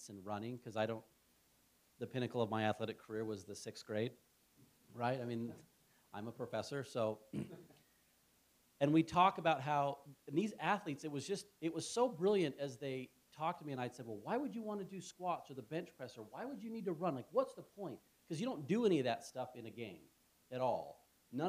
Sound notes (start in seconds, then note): 7.3 cough